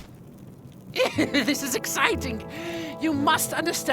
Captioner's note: laughs